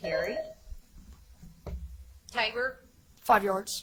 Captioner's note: buzzer chimes